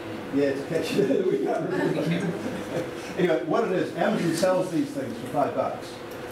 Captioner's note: laughter